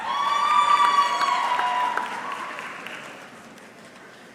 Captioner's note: audience cheering